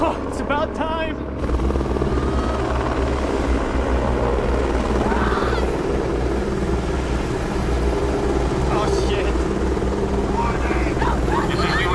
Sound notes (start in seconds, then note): 1.1 helicopter deafeningly loud